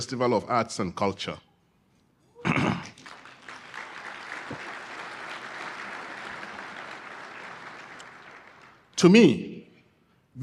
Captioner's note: applause